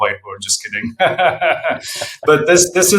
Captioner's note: laughs